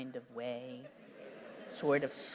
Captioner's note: laughter